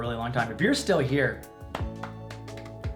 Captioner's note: claps